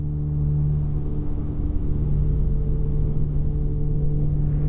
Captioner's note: low hum; music slowly builds